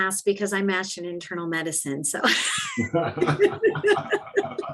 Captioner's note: laughing